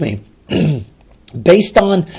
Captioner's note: throat clearing